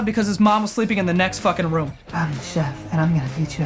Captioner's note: whispers